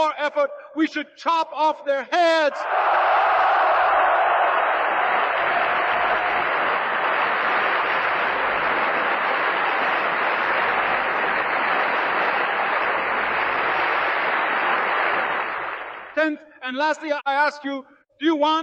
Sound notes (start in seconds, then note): 2.6 applause